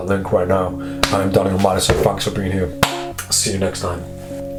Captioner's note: hand clap